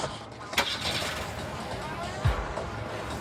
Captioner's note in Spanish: Ruido al prender el motor